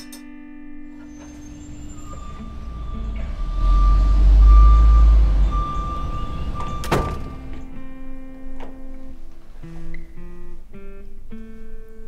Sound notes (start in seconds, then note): 0.9 construction truck beeps; 5.4 door slam